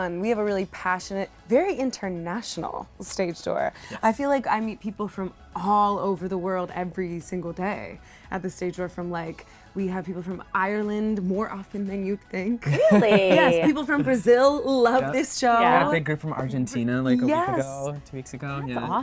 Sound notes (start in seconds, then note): 12.6 laughing